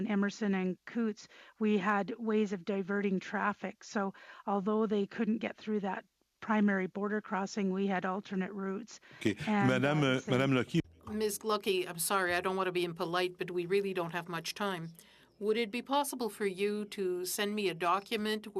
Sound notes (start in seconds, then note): 15.1 speaking French